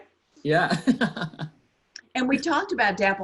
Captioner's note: laughs